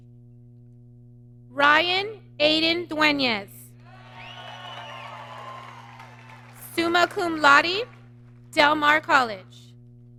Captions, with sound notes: Ryan Aiden Deunes. (applause) Summa Cum Laude, Del Mar College.